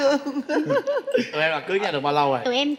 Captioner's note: laughing